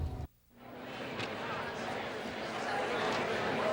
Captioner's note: chattering